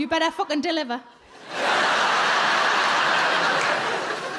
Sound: crowd laugh

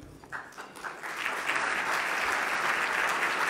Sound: loud clapping

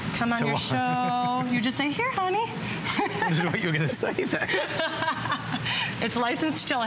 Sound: laughter

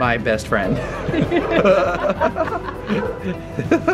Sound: laughs

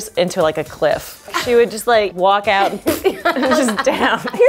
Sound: spitting

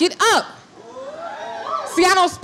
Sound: crowd cheering

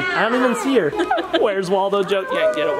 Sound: laughs

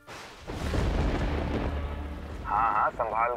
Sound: thundering

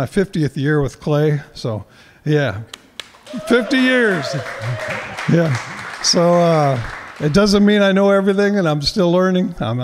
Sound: applause

